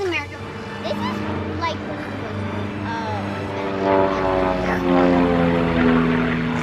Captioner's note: uplifting music; airplane whirring